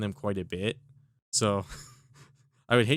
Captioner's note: giggles